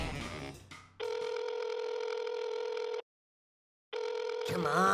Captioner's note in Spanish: Sonido de teléfono marcando